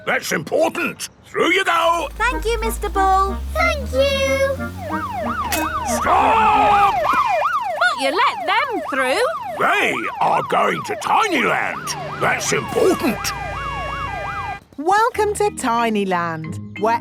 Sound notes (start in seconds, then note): 5.2 siren wailing; 13.6 sirens wailing